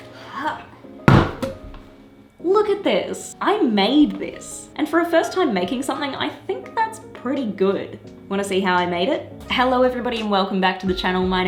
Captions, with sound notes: (exhale) (thud) - Look at this. I made this. And for a first time making something, I think that's pretty good. Wanna see how I made it? Hello everybody, and welcome back to the channel,